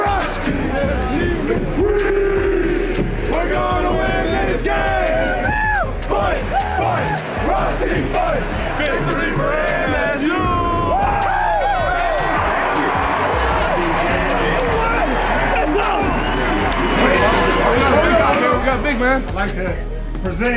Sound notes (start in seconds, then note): 10.1 cheers; 12.1 crowd cheering; 16.8 cheering continues